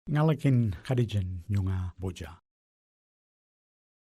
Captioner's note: speaks indigenous language